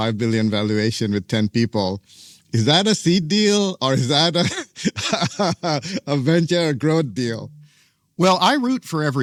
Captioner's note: laughs